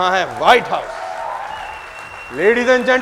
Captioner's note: clapping